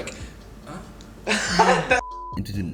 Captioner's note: laughter off camera